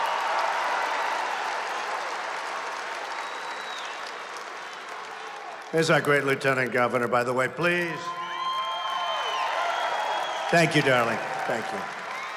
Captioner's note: applause